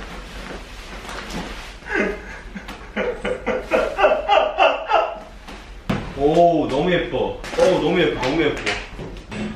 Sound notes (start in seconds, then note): 3.7 laughing